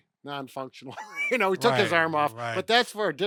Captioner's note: laughing